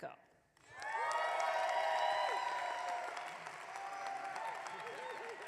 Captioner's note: audience clapping